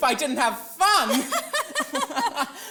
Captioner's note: laughs